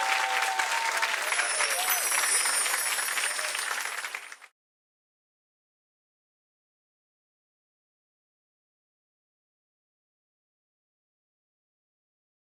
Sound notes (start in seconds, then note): 0.9 bells chiming